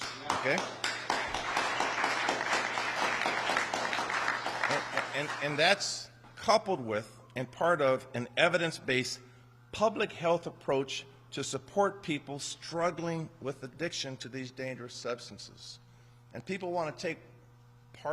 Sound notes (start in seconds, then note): 7.4 applause